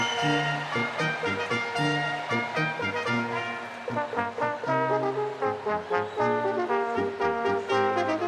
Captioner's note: applause